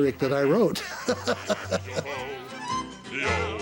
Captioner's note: chuckles